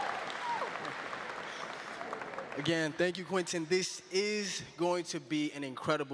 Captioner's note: cheering and applause